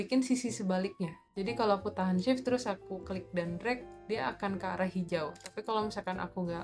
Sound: click

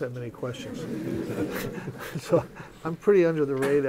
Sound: laughter

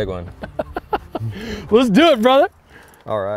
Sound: chuckling

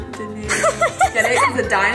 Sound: girl laughs

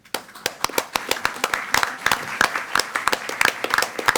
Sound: all applaud

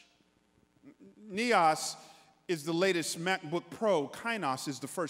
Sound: speaking in foreign language

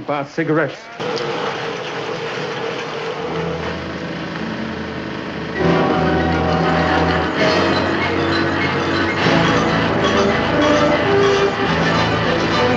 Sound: machinery noises

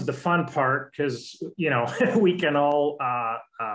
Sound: laughter

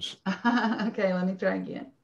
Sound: laughing

